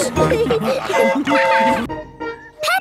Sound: train whistle toots

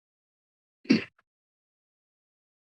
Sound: silence; coughs; silence

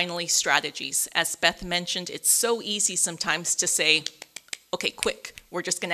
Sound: claps

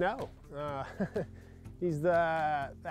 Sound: laughs

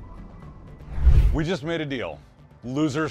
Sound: rushing wind

